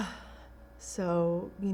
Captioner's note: sighing